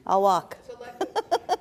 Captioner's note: laughs